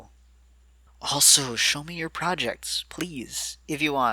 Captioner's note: whispered